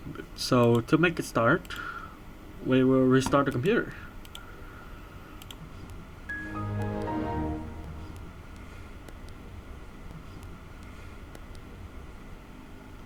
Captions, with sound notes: So to make it start, we will restart the computer *Windows XP Shutdown.wav*